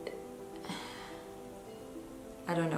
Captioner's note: sighs